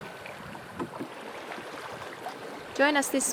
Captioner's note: water splashing